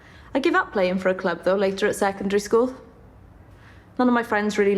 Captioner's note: none